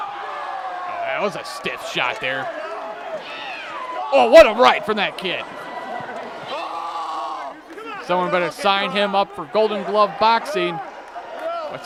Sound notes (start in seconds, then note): 0.1 crowd clamoring; 6.4 screaming